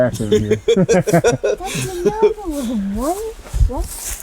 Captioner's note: men laughing